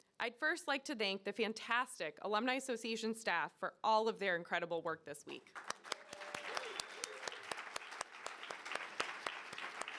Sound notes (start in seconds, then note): 5.5 audience applauding